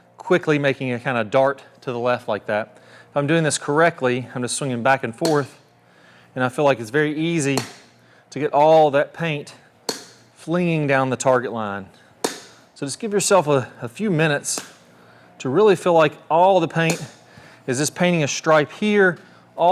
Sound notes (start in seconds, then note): 5.2 tee clinks; 7.5 tee clinks; 12.0 tee clinks; 14.6 tee clinks; 16.8 tee clinks